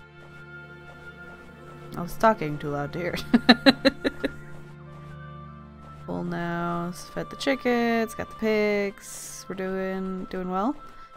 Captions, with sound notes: I was talking too loud to hear it *laughs* Full now... fed the chickens, got the pigs... We're doing... doing well!